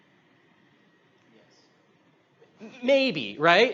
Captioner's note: whisper from audience